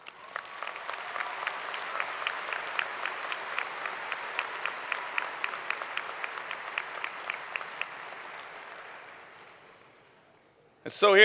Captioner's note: applause